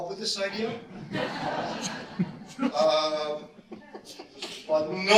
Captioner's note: audience laughter